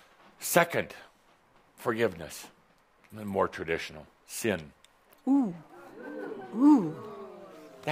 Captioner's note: audience says “Oooh”